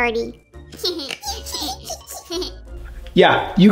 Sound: giggle

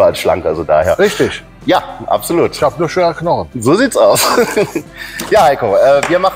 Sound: laughing

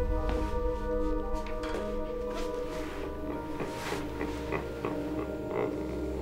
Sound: chuckling

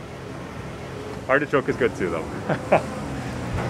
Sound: chuckles

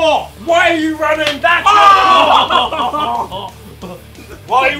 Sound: Tobi screaming

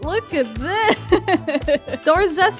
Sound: laughs

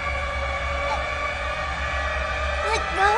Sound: gasps for air

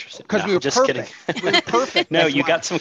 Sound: laughs

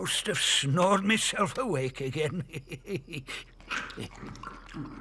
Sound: chewing sounds

